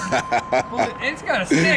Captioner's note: laughter